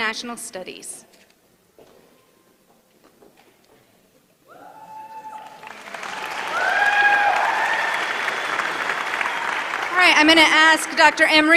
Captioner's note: applause